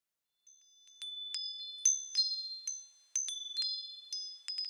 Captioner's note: wind chimes chiming